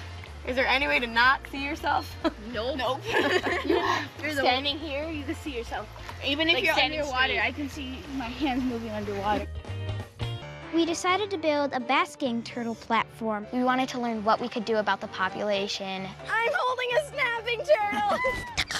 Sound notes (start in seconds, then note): 3.0 laughs; 5.9 both laugh